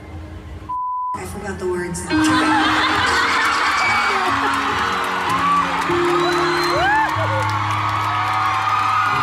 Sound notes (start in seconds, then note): 2.2 laughter